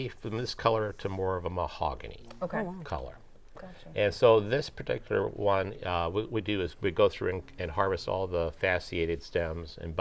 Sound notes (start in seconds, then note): none